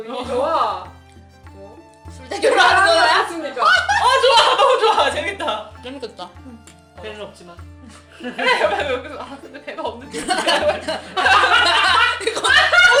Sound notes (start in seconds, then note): 8.1 snorts; 10.9 laughing